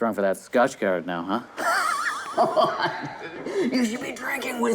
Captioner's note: raspy laugh